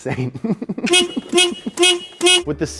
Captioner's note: horn beeping